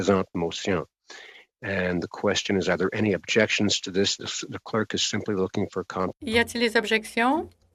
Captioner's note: speaking French